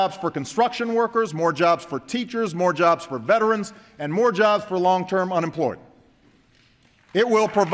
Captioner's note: applause